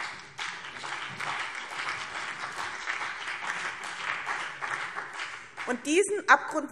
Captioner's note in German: Beifall BÜNDNIS 90/DIE GRÜNEN